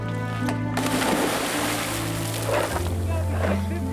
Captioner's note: water splashing